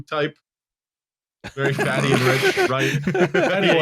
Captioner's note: laughter